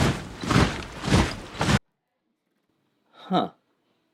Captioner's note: rhythmic marching resounds